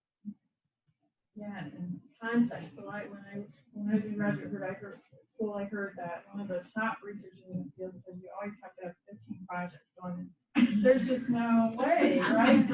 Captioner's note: laughter